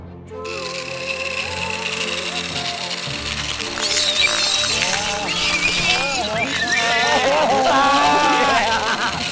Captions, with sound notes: [sound of saw] [shrieker noises] Yeah, yeah! John Derby!